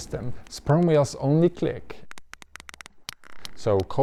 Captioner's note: whale clicking